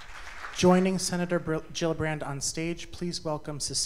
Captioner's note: applause